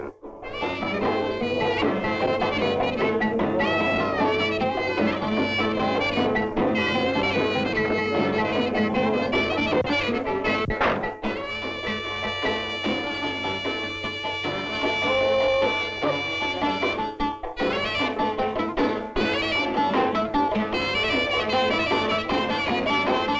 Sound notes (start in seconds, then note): 0.1 bright folk music continues; 10.6 door banging; 16.4 bright folk music continues